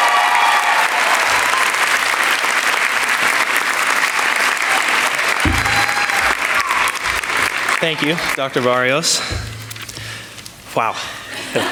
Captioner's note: applause